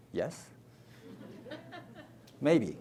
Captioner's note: audience laughs